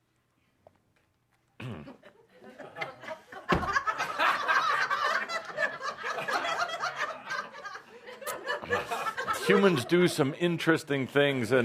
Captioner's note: takes a drink and makes a face, much audience laughter